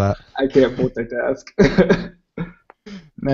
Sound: laughs

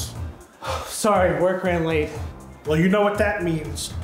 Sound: sighs

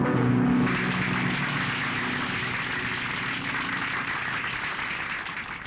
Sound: applauding

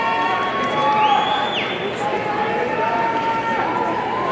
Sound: audience cheering

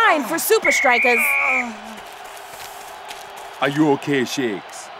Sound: whistle blows

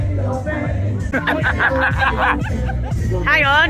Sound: laughter

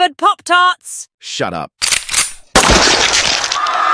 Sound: gun cocks; gunshot with blood hit

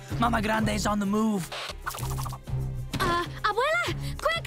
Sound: none

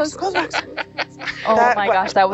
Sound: man laughs

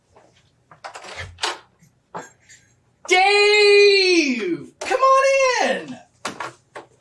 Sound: door opening

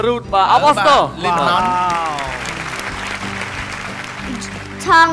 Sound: applause

